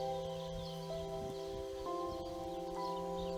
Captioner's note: birds chirping